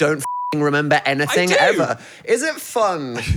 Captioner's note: beep